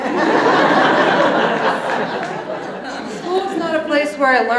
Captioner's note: audience laughs